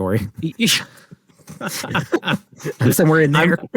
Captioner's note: both laugh